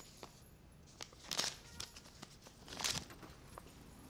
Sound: tearing papers

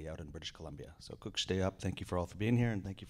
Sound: speaking in Indigenous language

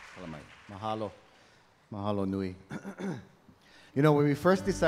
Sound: speaking in Hawaiian

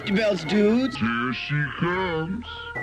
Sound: sudden deep voice again and zoom in

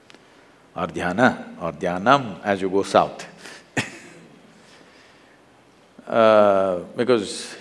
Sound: laughs

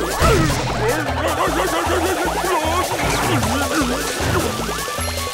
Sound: shrieking

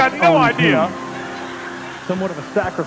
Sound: attendees laughing

